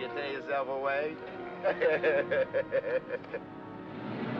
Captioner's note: laughs; car accelerates away